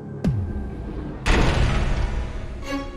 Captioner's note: mechanical sound of door